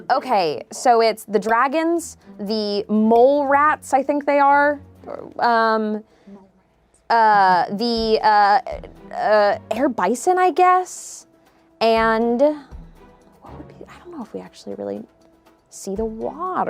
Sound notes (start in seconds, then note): none